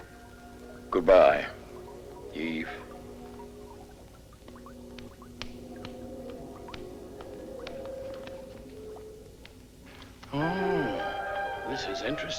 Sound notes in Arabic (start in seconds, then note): 4.4 صوت خطوات قوية